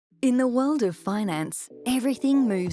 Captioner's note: voiceover